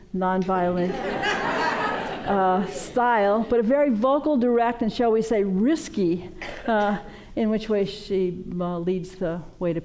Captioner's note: laughter